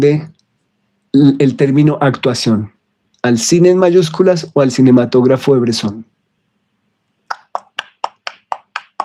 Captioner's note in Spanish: aplausos